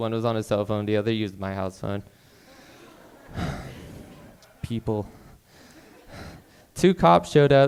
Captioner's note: sighs